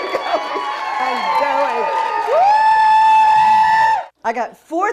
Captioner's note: cheers